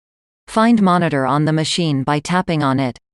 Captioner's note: Text-to-Speech